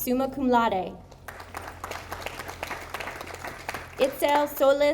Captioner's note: audience applauding